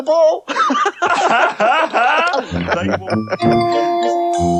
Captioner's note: all Laugh